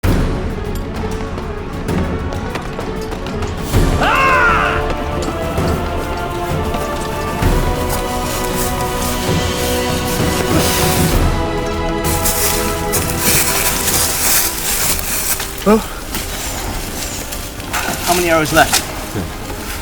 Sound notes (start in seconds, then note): 0.5 dramatic music; 3.9 shouts